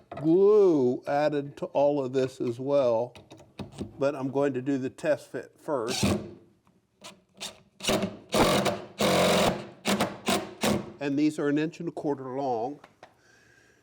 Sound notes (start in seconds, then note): 6.2 impact driver whirring